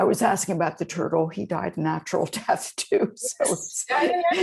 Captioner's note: chuckling